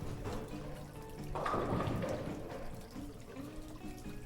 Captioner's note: water splashing